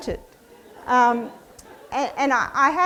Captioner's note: audience laughs